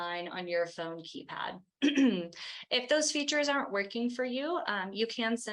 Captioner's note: clears throat